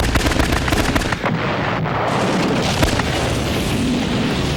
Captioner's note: explosion booms